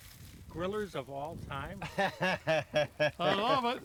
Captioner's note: chuckles